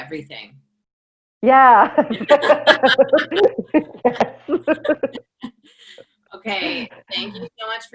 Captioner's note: laughter